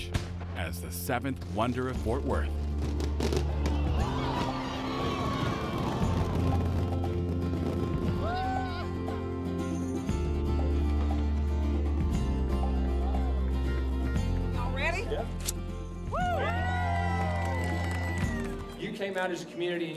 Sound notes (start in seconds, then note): 2.4 fireworks exploding; 8.1 upbeat music; 16.0 crowd cheering